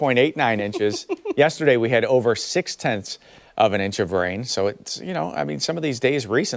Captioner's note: laughter